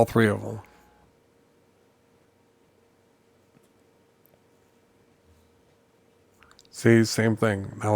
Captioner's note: silence